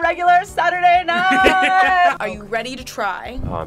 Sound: laughs

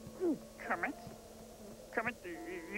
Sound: gulp

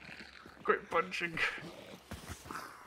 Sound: laughs

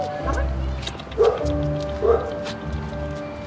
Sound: neighborhood dog barks

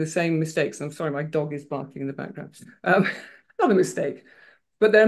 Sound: laughs

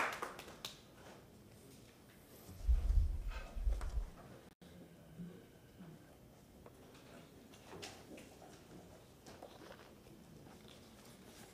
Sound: applause

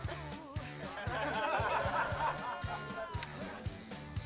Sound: laughing

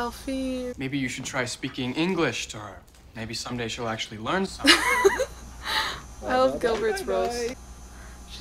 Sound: laughs

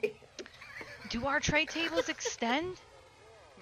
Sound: laughter

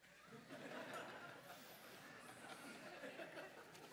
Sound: laughter

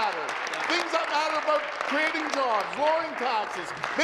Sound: applause

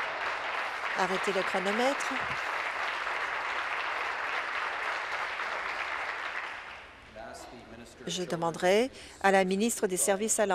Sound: applause

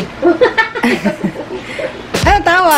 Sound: laughs

